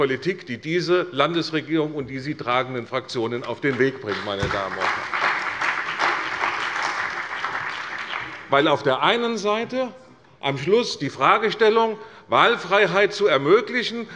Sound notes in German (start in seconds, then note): 5.5 Beifall bei der CDU und dem BÜNDNIS 90/DIE GRÜNEN